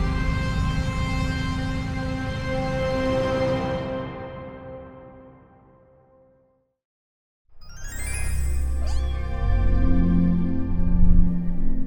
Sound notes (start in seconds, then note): 8.8 cat meowing